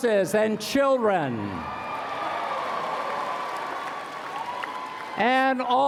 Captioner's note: applause